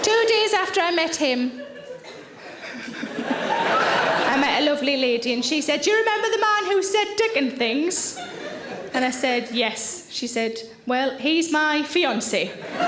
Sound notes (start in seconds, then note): 1.5 giggles